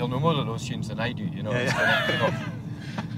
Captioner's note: group laughing